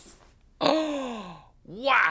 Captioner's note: gasps